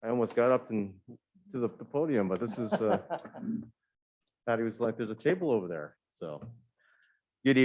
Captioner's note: laughter